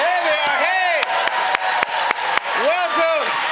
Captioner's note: cheers and applause